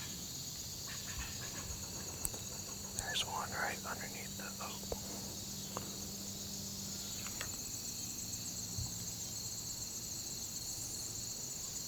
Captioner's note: whispering